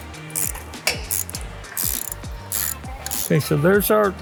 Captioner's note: wrench ratcheting